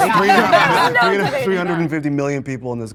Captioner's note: everyone laughing